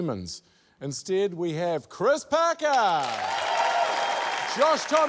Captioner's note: cheering, applause